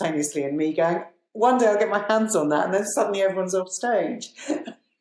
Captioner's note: both laugh